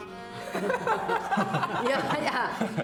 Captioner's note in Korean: 일동 웃음